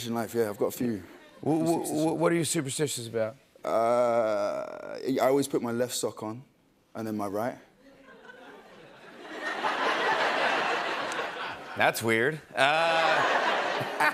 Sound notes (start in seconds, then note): 7.9 laughter